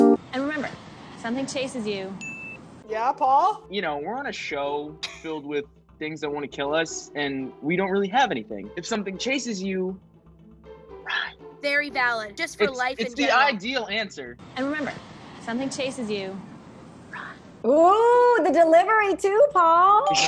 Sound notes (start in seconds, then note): 2.2 ding; 10.8 whispers; 16.9 whispers; 20.0 bell ringing